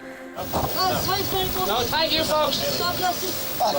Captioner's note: people chatting